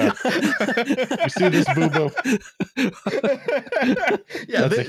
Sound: laughter

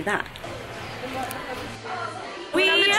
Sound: room chattering

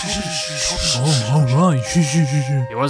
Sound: villagers shushing Toby; Toby shushing himself

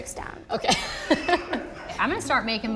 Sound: laughs

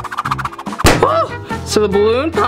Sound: balloon pops

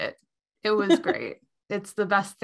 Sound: laughs

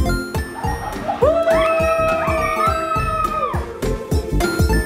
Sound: people cheering

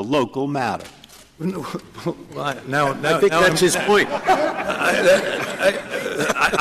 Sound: laughter

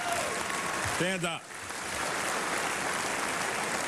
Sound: applause

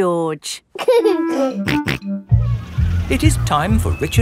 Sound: giggling and snorting

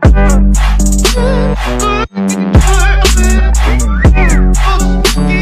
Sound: whistle

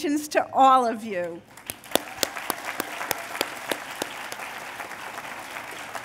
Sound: applause

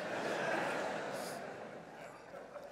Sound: laughter

